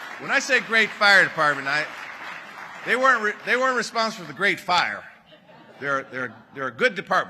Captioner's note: applause